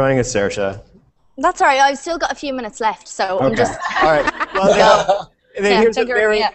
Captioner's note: risas